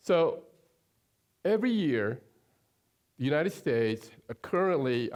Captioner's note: none